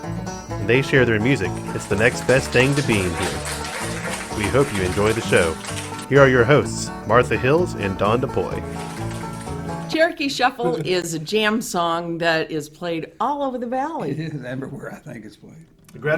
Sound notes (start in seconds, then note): 7.1 people clap